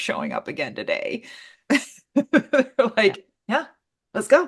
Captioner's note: laughs